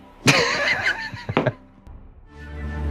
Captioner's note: laughs